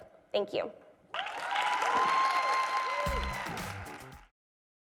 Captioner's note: audience applauding